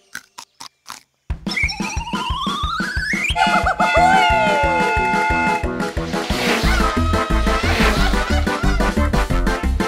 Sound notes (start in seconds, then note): 3.4 screams; 4.4 mariachi music